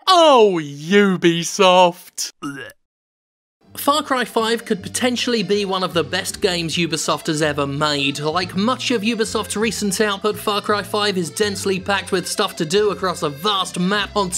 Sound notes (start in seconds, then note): 2.3 barf